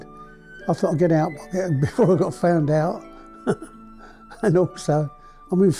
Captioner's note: chuckles